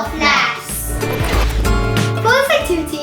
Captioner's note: air whooshes